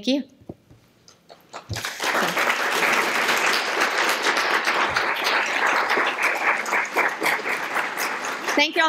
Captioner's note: applause